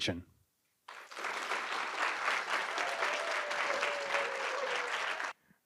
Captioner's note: applause and cheering